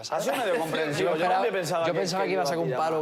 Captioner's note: laughs